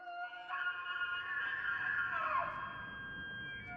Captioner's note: nature sounds